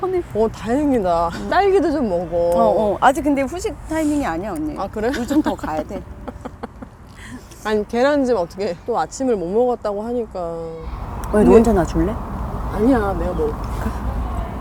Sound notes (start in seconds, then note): 5.0 laughing awkwardly